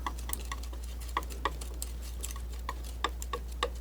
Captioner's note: scratching